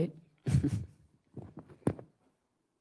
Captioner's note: chuckles